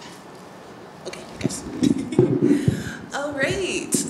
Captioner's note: laughs